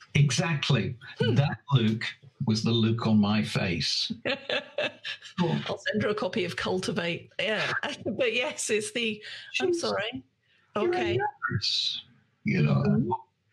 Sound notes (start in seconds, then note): 4.3 laughs